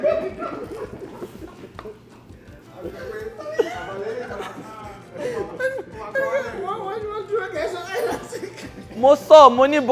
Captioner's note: everyone laughs